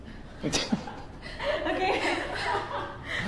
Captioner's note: laughs